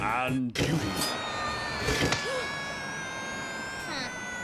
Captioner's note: Owen screaming